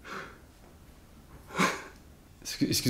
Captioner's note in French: rire soufflé